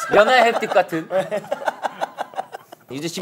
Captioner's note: laughing